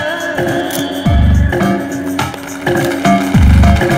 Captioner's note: Everyone clapping